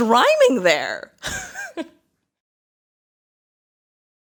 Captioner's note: laughs